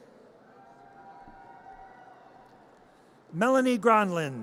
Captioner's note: audience cheers